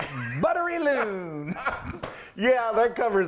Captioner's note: laughing